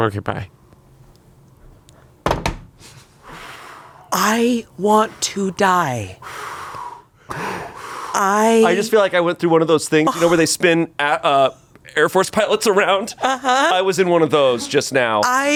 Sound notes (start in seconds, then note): 2.2 phone thuds; 3.2 exhales; 6.2 exhales